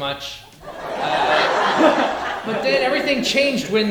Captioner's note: audience laughing